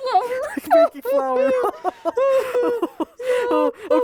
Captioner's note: laughing